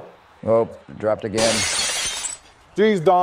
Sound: glass shatters

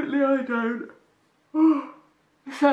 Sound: yawns

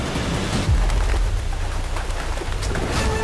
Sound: wings flapping; sinister music playing

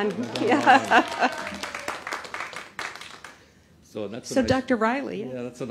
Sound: applause

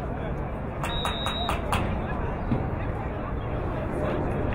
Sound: whistle blowing

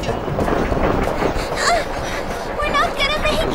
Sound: train clacking; panting

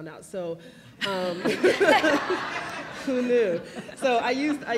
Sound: laugh; laughs

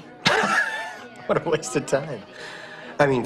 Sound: laughs

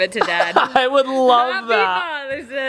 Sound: laughs

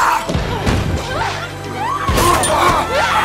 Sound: riley yells

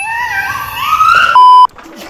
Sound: screeching; laughing

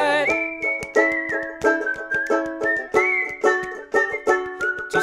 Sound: questionable whistling persists

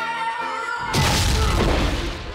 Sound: screaming; thudding

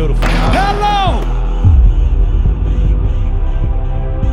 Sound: ball dunking

